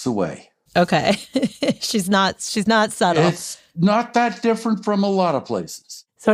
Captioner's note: laughs